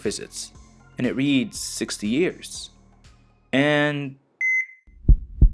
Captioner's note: beeeeb